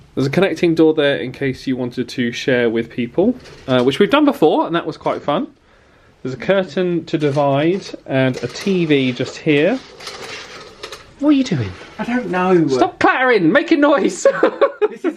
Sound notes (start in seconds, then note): 9.8 curtains clattering; 14.1 laughs